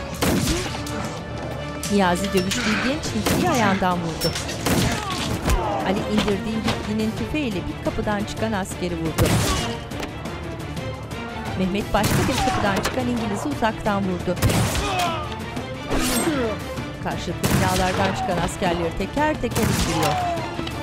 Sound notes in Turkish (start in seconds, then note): 2.4 Dövüş sesleri; 2.5 Silah sesleri; 9.0 Müzik - Gerilim; 9.0 Silah sesleri; 17.5 Silah sesleri; 17.5 İnleme sesleri